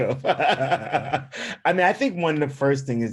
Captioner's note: laughing